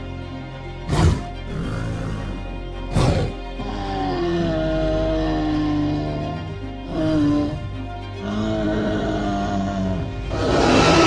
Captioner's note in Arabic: أصوات ترايسيراتوبس